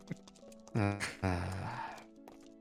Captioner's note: laughs; sighs